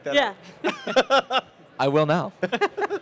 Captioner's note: he laughs